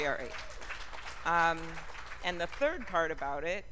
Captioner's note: cheers and applause